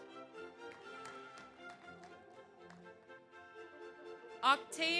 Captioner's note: audience applauds